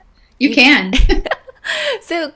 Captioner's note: laughing